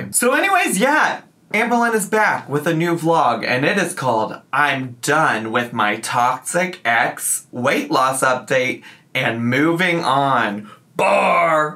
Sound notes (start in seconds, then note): none